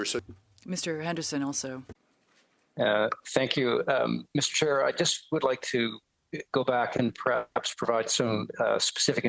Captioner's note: speaking french